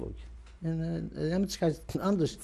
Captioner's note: non-english